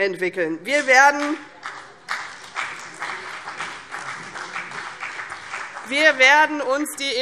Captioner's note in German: Beifall CDU und vereinzelt BÜNDNIS 90/DIE GRÜNEN